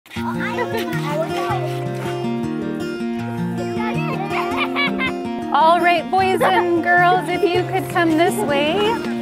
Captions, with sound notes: (gentle music) (children chattering) - All right, boys and girls, if you could come this way.